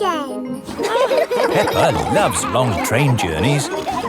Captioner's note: laughing